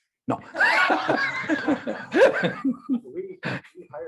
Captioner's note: laughing